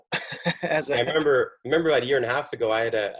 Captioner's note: chuckles